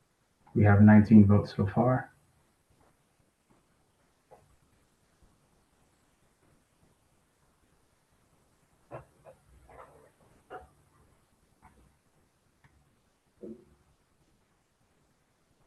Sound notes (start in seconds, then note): 2.9 pause